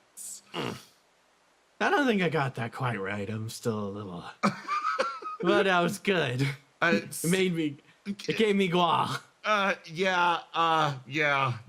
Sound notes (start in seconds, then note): 4.4 laugh